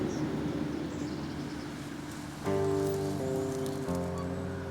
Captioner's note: birds tweeting